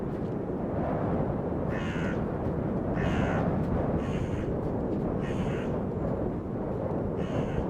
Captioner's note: crow cawing